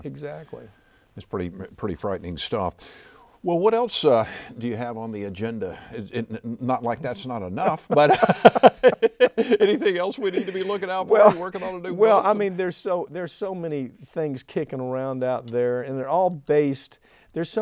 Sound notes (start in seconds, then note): 7.5 both laughing